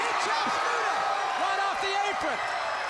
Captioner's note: crowd cheering